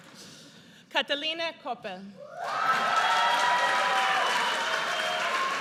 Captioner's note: audience cheers